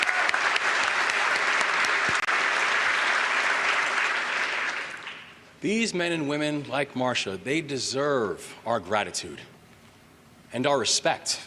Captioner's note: applause